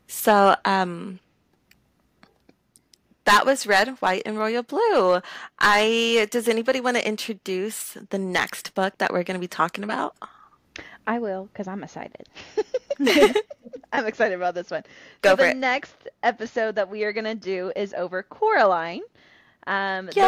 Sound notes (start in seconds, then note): 12.3 laughter